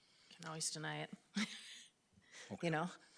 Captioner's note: laughs